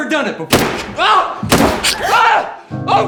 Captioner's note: gun fires; Lizzie gasps